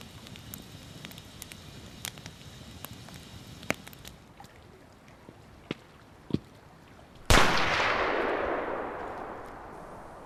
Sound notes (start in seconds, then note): 4.2 water lapping gently; 7.3 crack of gunshot